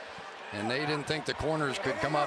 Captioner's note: cheers